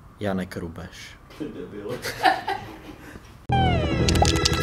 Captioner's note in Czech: smích